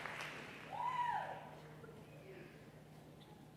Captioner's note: applause